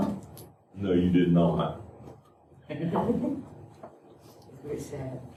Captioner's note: laughter